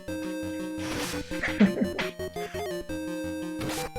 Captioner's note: chuckles